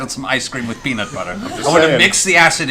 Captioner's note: laughter